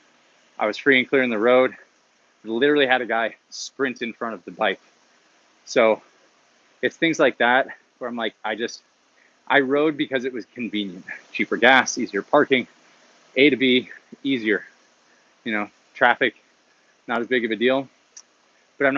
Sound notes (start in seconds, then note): none